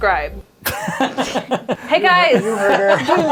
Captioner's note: laughter